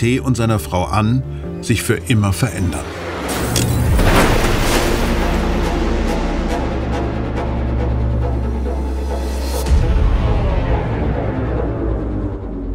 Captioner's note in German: Unfallgeräusche